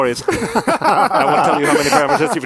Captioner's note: panelists laugh